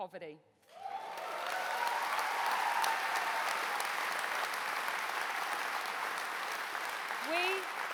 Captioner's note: applause